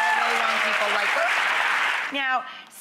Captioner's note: audience applauds